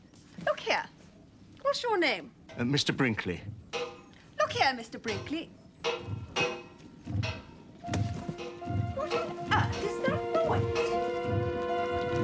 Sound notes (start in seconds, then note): 5.5 noise of someone banging on pipes